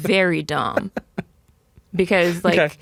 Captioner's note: laughing